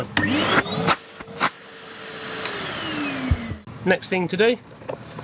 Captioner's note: vacuum cleaner buzzes